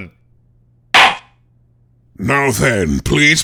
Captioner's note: gavel slams!